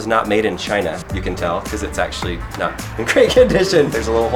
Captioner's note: laughs